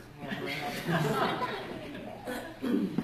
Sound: laughter

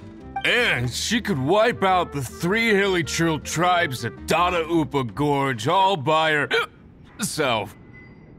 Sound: hic

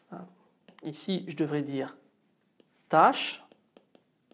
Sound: in French: "tâche"

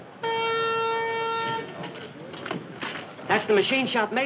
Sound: tone blaring

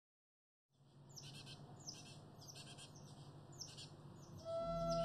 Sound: bird sounds

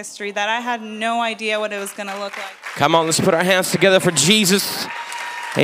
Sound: clapping

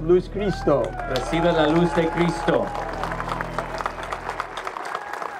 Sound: speaking in foreign language; clapping

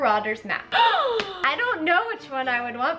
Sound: gasping

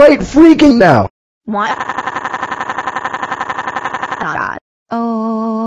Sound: crying

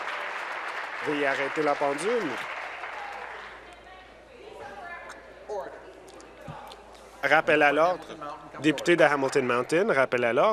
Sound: applause

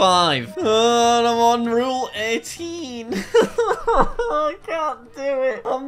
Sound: laughs

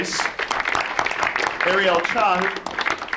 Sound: audience applauds

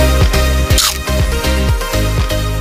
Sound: crunch!

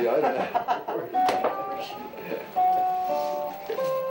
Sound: laughter

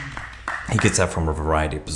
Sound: spectator applauds

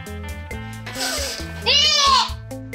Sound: sniffs

